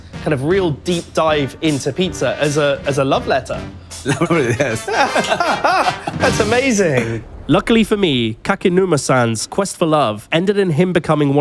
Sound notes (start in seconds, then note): 3.9 laughs